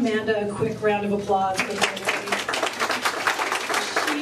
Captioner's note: applause